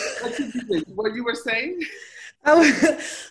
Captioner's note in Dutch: gelach